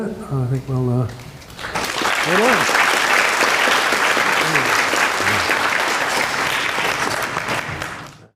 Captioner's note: applause